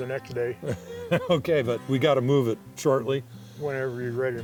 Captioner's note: laughs